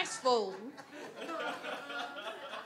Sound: audience laughs

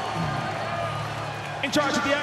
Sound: scattered cheering, applause

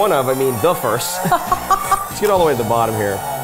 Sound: laughing

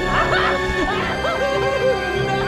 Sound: screams.... again

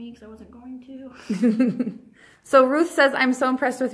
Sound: chuckles

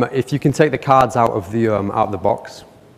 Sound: none

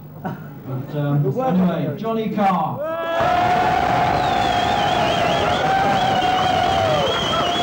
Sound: cheers & applause

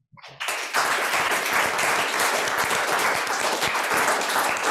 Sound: audience applauds

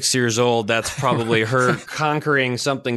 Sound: laughs

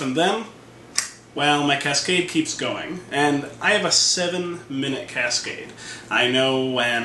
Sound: click

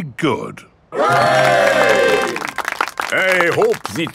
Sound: clapping

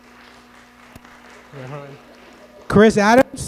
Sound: audience clapping

